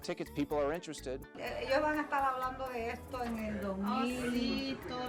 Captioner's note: speaking Spanish